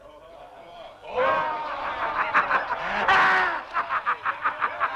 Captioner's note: chieftains laughing